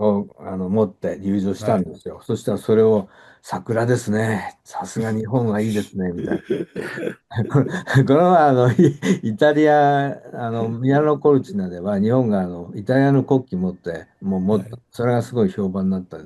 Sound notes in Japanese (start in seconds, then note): 4.9 笑い